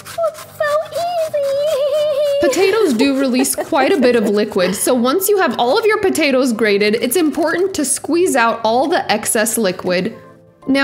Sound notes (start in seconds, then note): 2.1 giggles